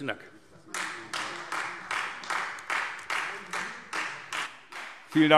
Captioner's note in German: Beifall Freie Demokraten